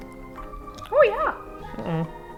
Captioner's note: Spudgy voice